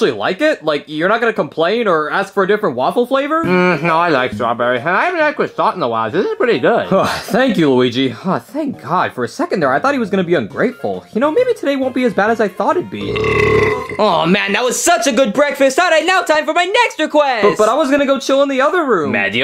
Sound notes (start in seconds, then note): 13.0 Mario burps